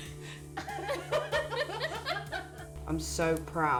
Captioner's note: laughing